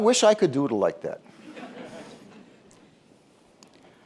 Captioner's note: laughter